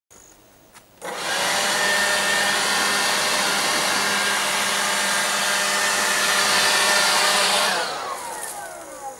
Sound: sound of leaf blower

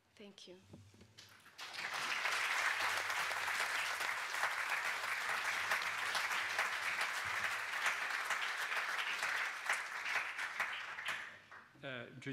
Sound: speaker Transition. Applause

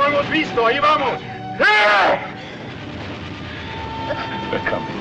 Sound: man Speaking Spanish

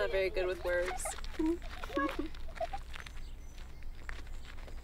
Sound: girls giggle

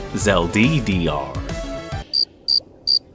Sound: crickets

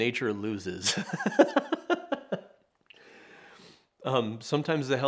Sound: laughing

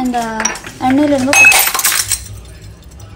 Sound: glass shatters

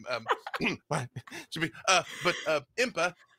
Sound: continues laughing

